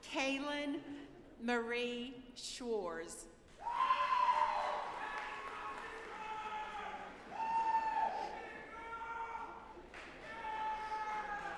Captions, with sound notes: - Kaylyn Marie Schwarze. (audience applauding)